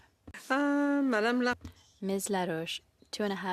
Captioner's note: speaking French